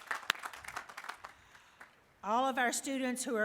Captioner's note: applause